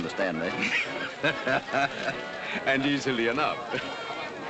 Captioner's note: chuckles